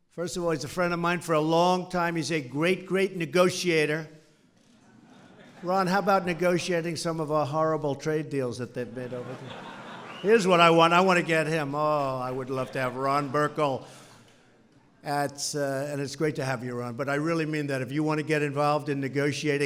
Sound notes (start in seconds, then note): 4.7 laughter; 8.8 laughter